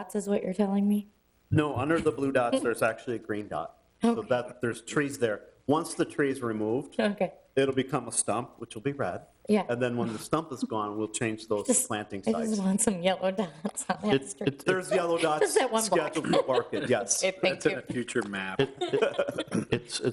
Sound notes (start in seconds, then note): 14.0 laughing; 19.0 people laughing